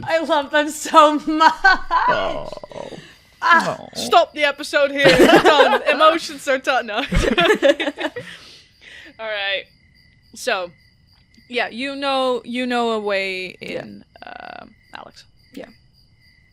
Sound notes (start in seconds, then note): 5.0 laughter; 9.4 laughs